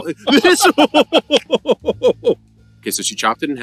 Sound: laughing

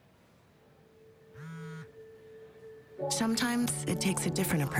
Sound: cellphone vibrates

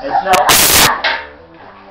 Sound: loud scream

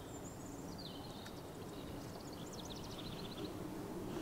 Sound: birds chirping

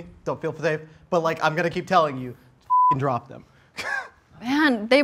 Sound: beep

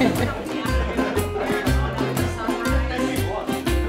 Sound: diners murmuring

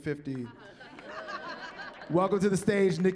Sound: laughter

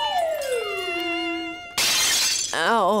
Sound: shattering

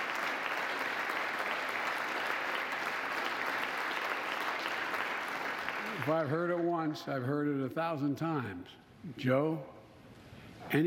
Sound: applause

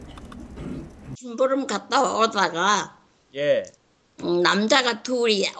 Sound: speaks in foreign language

